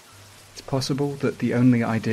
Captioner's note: rain sounds, which continue throughout the video